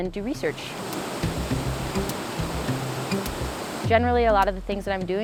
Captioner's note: water flowing